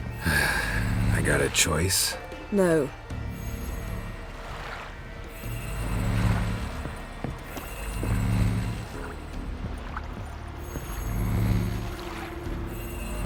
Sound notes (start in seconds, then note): 0.2 long sigh; 5.4 soft, pulsating hum